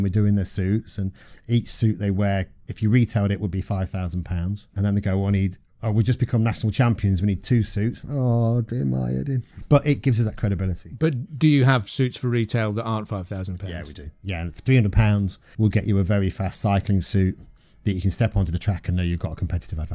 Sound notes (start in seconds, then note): 8.0 mock stressed voice